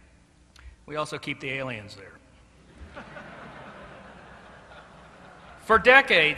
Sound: laughter

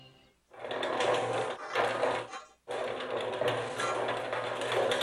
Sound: engine Running

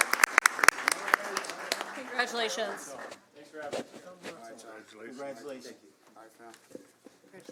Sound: applause

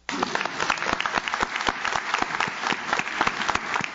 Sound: audience claps

